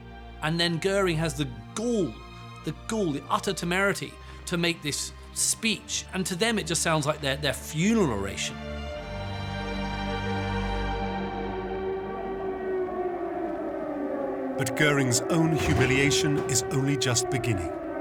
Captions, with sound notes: And then Göring has the gall, the utter temerity, to make this speech. And to them, it just sounds like their funeral oration. [air-raid sirens] But Göring's own humiliation is only just beginning.